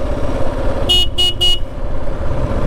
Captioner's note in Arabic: بوق، بوق، بوق